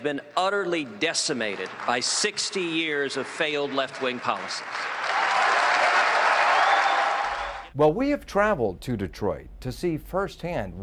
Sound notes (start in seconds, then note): 5.2 applause